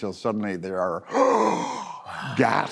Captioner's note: gasps